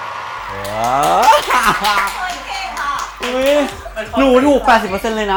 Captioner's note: laugh